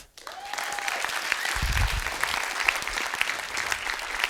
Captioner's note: students clapping